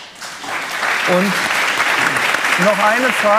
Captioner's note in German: Applaus